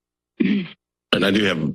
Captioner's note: clears throat